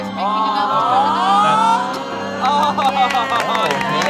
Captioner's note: all exclaiming